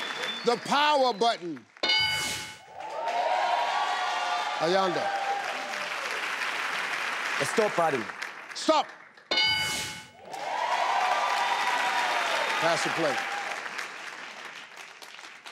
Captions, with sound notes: - The power button? (board dings) (audience applauding) - Ayanda? - The stop button. - Stop? (board dings) (audience applauding) - Pass or play?